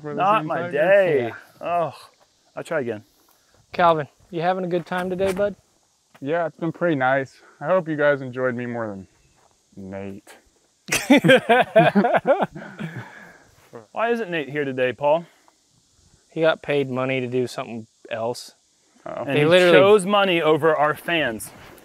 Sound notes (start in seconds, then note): 10.8 laughter